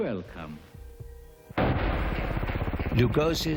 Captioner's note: heart beating